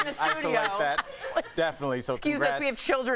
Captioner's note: laughter